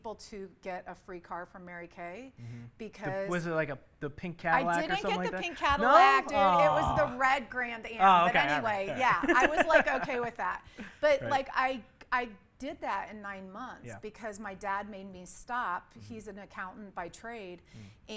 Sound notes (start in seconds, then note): 8.1 laughs